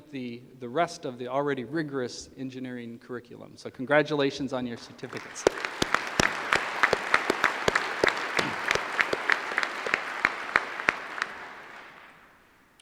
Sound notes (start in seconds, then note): 4.7 applause